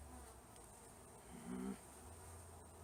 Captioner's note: frustrated growl